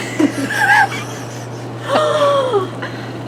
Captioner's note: gasps